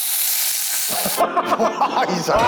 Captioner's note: sizzling sound